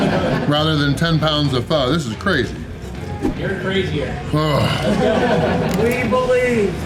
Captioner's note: crowd laughter; crowd laughter